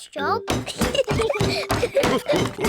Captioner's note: laughter